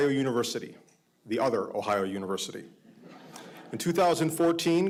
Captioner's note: audience laughing